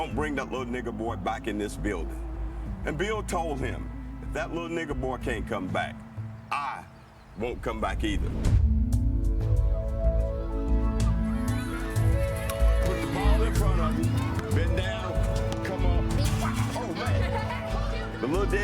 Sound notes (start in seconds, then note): 9.1 gentle wistful music; 12.2 kids chattering